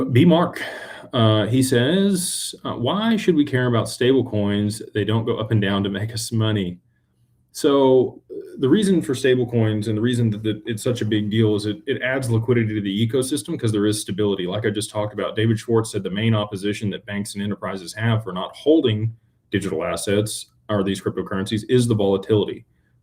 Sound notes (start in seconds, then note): none